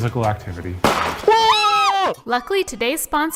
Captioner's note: both yells